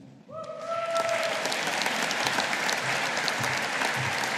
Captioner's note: audience applauding